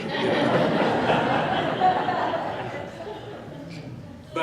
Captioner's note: laughing